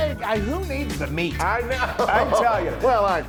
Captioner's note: laugh